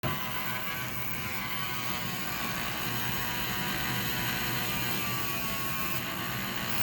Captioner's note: rotary tool taking off like an aeroplane at 12K RPM